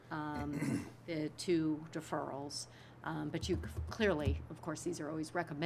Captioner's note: clears throat